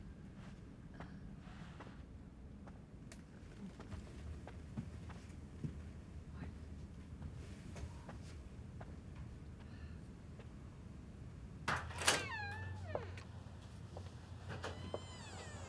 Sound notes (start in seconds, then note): 3.5 staff whispering; 11.7 door creaks